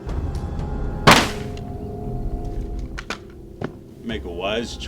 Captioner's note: gun fires